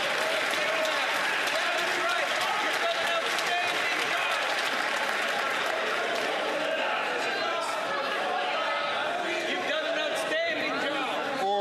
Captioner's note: some Applause